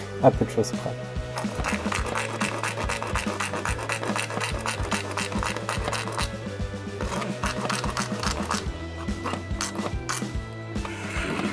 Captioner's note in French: bruit de scie